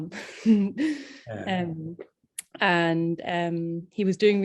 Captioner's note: chuckles